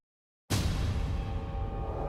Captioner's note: boom; menacing music